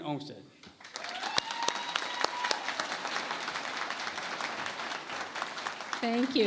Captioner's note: applause